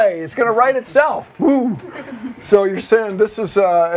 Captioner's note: girls giggling